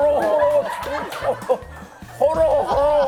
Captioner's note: crying